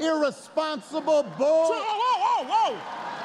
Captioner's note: applause